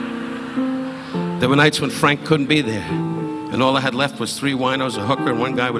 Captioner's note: audience laughing